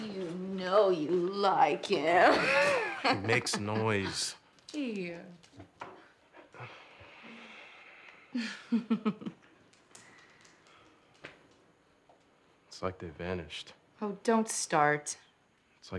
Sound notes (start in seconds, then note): 2.2 chuckles; 8.3 giggles